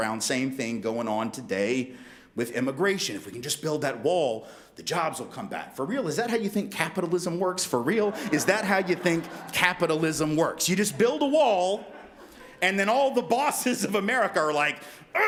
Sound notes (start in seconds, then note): 7.8 crowd laughs